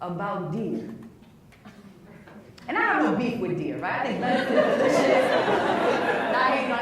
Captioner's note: laughs